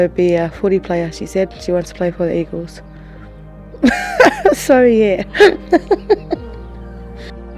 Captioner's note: laughs